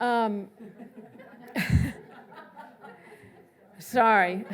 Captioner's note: laughs